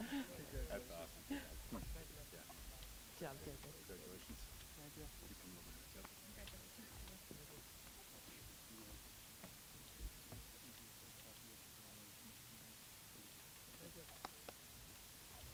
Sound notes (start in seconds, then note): 4.0 applause